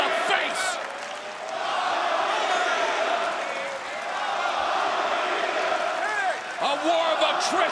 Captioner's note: crowd cheering